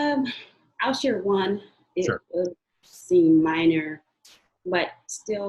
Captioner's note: murmurs